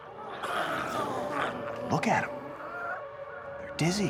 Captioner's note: glowzies growling